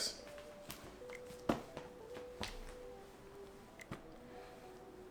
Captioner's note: folder thuds